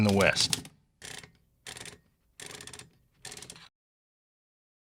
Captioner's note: paper spools out